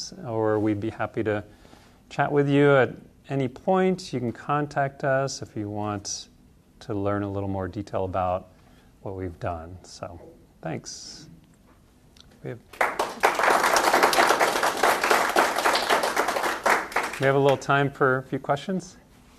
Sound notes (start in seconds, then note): 12.7 applause